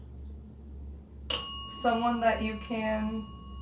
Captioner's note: bell dings